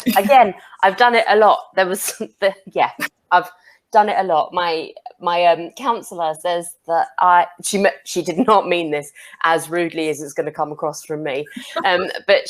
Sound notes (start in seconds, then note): 2.4 chuckles